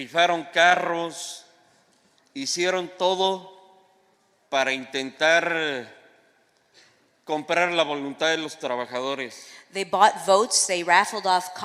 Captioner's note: speaking spanish